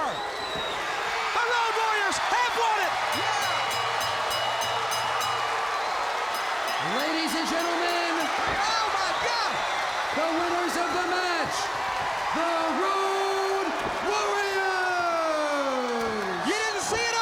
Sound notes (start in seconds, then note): 0.2 crowd cheering; 3.0 crowd cheering; 3.6 bell ringing